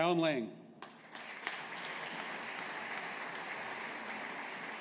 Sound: audience applauding

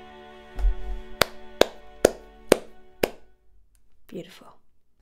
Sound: clapping

